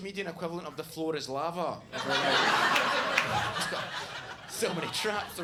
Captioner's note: audience laughs